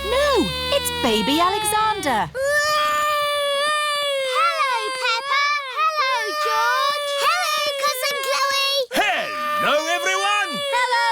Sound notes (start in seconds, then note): 2.7 continues wailing